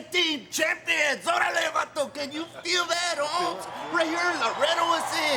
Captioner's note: speaking Spanish